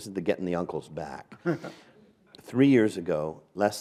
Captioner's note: laughter